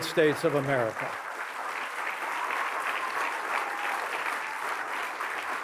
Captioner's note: applause